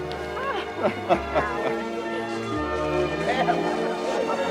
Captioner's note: Howard laughing